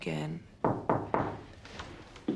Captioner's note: mengetuk pintu